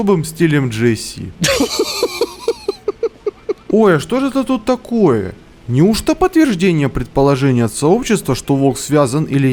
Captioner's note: laughter_10.ogg